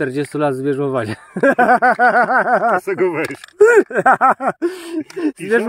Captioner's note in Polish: śmiech